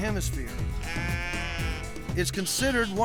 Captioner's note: sheep bleating